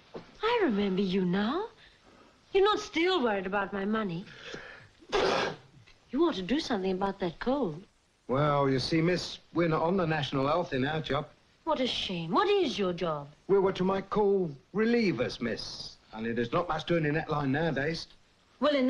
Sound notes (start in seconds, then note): 5.1 thief sneezes